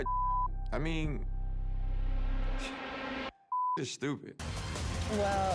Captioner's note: beep; scoffs; beep